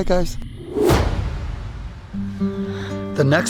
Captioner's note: slam; soft country music